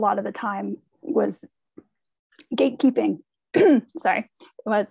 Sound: she coughs

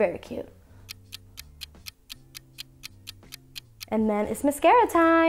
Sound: clock ticking

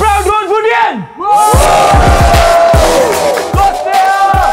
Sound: hooting

